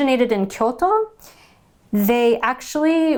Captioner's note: speaking in Japanese language